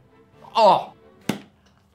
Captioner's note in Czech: povzdechne si